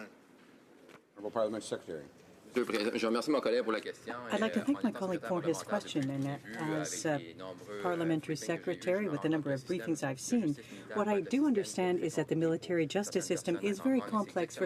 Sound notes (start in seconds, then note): 8.5 speaking french